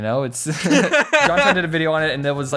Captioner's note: both Laugh